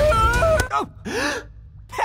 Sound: smack; gasp

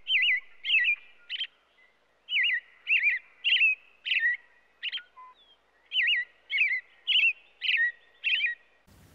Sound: american robin sound

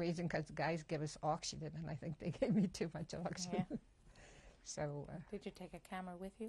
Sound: laughs

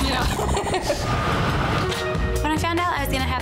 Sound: laughs

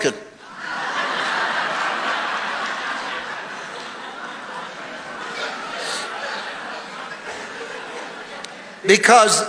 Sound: congregation laughing

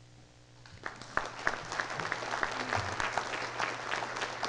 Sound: applause

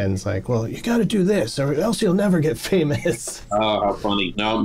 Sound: laughter

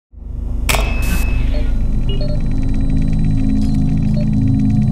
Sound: computer beeping

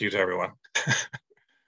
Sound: chuckles

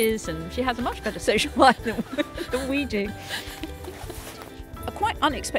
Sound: laughing

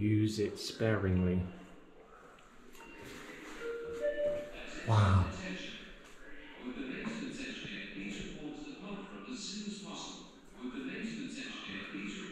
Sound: radio Sounds

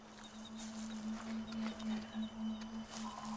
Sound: birdsong

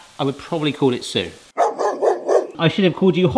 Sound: dog barking

